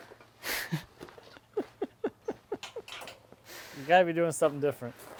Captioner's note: chuckles